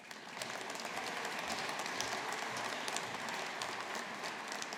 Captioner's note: audience applauding